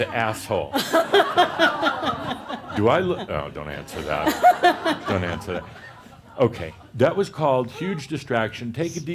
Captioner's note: laughter